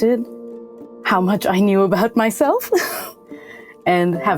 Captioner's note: chuckles